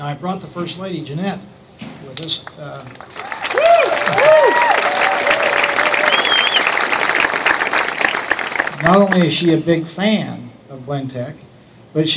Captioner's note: applause